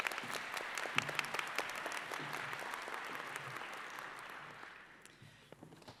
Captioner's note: applause